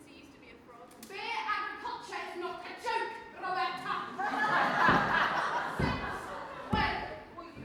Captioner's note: audience laughs